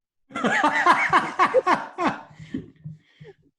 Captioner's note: laughing